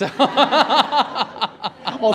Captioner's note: laughter